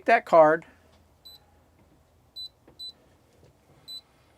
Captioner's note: beeping